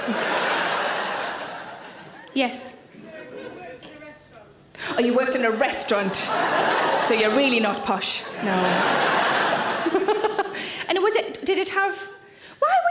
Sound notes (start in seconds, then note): 0.0 audience laughing; 5.8 audience laughing; 8.2 laughs